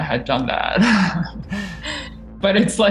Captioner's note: both laughing